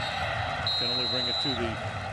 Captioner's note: whistle blows